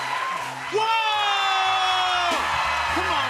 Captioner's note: audience cheering